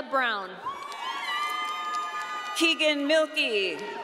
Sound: audience cheering

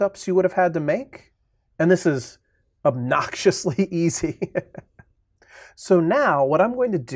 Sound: chuckling

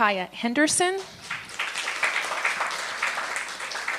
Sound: applause

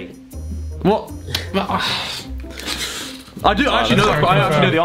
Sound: students murmurs

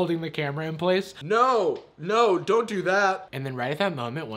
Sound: deep voice

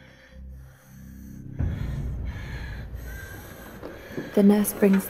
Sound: laboured breathing

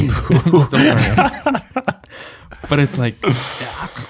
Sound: men laughing

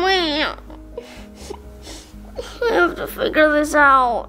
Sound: crying

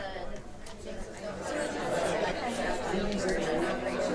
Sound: chattering

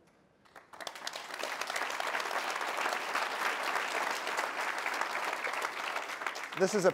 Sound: applause

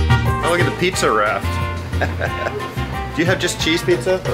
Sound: laughs

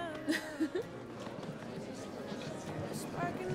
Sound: group murmuring

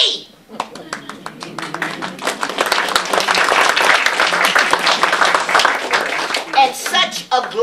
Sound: applause

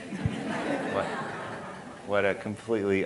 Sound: audience laughing

